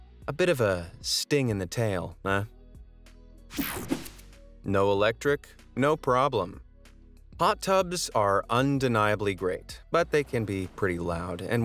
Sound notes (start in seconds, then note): 3.6 air whooshing; 6.6 upbeat music